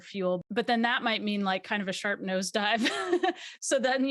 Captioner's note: laughs